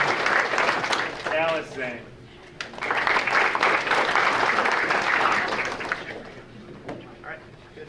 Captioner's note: audience applauding